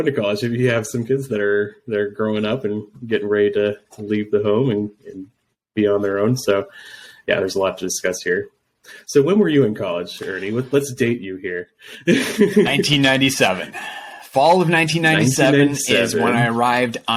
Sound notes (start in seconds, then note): 12.0 laughs